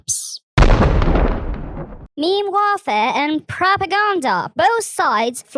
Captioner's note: thunder